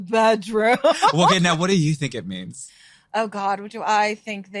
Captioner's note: both laughing